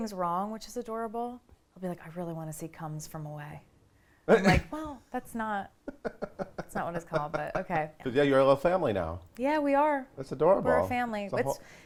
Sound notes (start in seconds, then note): 5.9 laughs